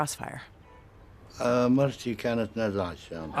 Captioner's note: speaking Arabic